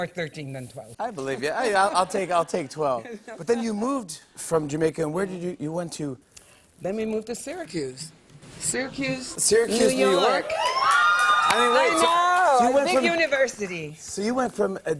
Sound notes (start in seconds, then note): 10.4 cheering